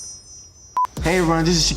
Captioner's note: metal chiming; TV beeps